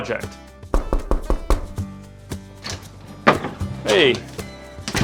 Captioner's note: knuckles rapping